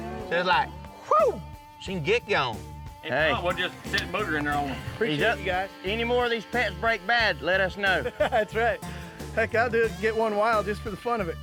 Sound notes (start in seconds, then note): 7.8 chuckles